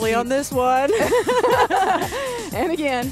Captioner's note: both laugh